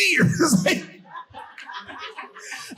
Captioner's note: audience laughing